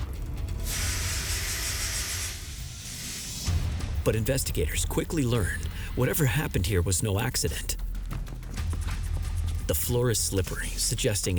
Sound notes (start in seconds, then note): 0.5 fire hose hissing